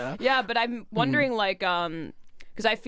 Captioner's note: laughs; deep voice